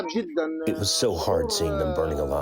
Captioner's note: through translator